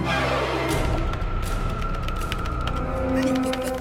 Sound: typing

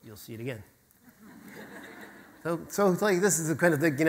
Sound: audience laughter

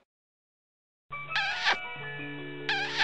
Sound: kissing Noise

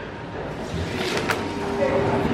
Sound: door opens

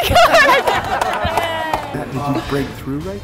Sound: crowd laughing and clapping

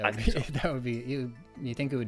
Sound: laughs

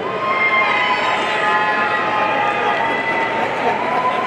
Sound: audience cheering

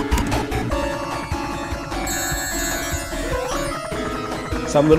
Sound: glitchy video game music; Tails whirring; rings jingling

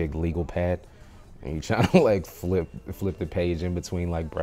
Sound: laughs

